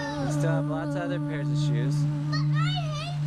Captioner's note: voiceover